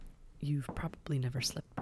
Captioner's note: SFX: Footsteps